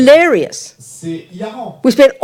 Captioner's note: French